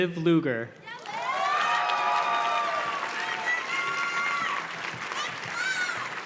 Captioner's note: audience cheers and claps